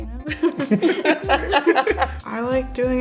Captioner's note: both chuckles